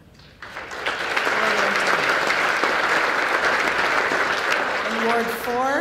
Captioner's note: applause